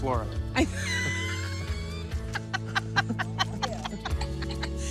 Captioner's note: laughing